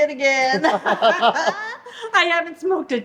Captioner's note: both laughing